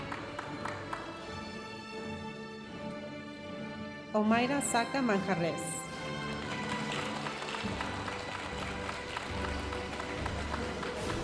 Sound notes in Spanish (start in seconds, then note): 6.1 aplausos de la audiencia